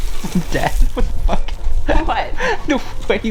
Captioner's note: laughing